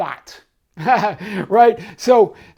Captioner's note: laughs